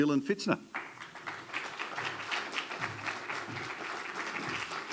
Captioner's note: attendees applauding